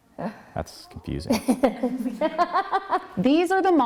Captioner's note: laughs